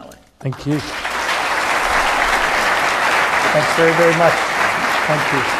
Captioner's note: applause